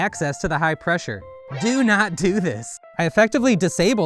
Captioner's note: alarm